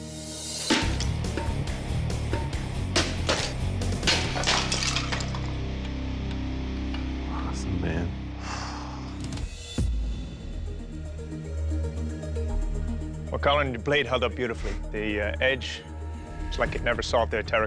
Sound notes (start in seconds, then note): 8.3 exhales